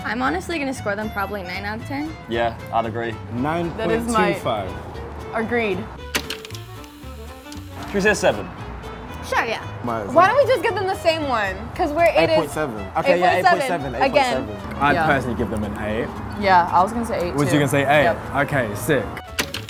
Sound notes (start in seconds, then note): 6.1 projector clicking; 19.3 projector clicking